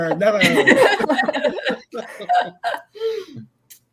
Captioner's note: laughs